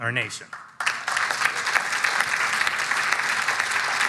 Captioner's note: audience applauding